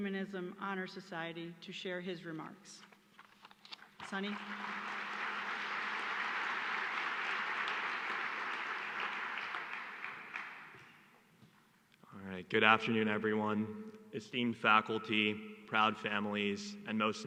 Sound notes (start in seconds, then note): 2.3 applause